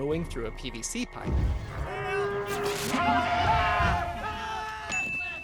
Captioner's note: Parasaurolophus roar